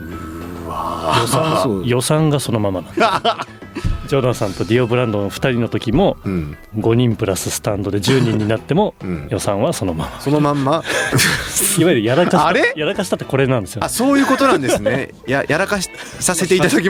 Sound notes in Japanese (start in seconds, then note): 2.8 笑い; 10.0 笑い